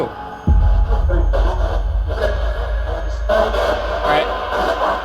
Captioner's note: device hissing and crackling